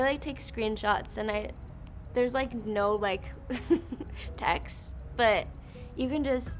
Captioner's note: laughs